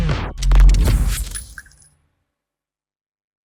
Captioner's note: bell jingles